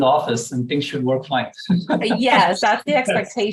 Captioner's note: laughter